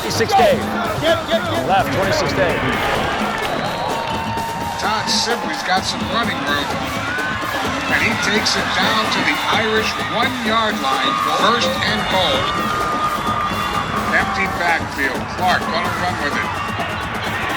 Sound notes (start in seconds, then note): 3.1 crowd noises; 4.8 radio Announcer; 14.7 radio Announcer